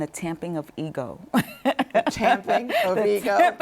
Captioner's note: chuckles